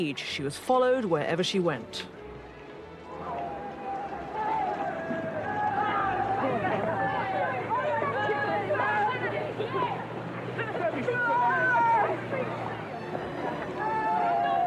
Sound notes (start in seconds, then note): 3.6 photographers yelling